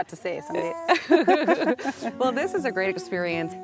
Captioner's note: both laughing